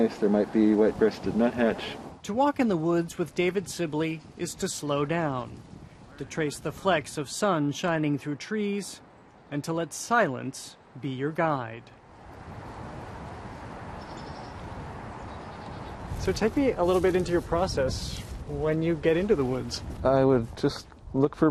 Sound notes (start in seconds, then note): 13.9 bird calling